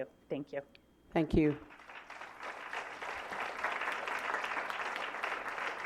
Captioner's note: applause